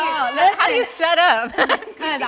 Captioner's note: laughing amusingly